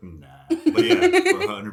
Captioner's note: laughing